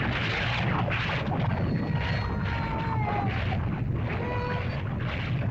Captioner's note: lava bubbles & flows; cries; lava bubbles & flows